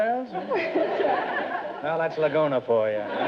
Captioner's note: audience laughter